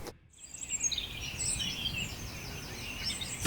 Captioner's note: birds singing